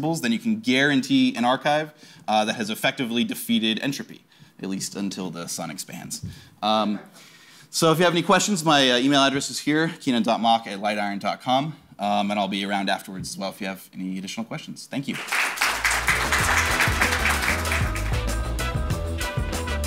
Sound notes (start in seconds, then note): 15.1 audience applauds; 15.6 upbeat music